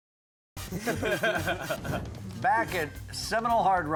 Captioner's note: men laugh